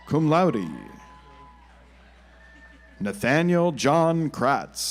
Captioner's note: audience applauds